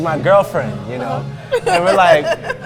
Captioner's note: laughs